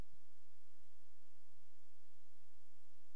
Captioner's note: none